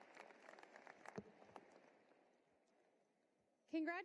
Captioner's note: applause